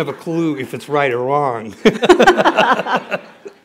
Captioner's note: laughter